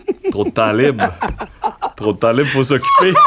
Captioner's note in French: éclat de rire